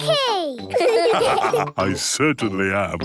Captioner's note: laughs; all laugh